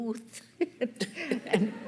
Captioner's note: laughter